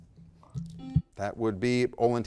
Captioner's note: buzzer blaring